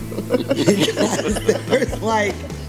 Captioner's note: people laughing